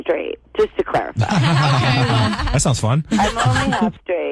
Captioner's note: laughter